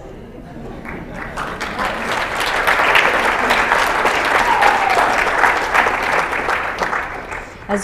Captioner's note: applause